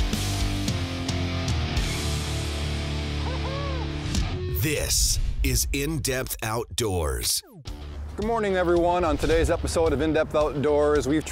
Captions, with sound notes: (rock music) - [Voiceover] This is In Depth Outdoors. - Good morning, everyone. On today's episode of In Depth Outdoors.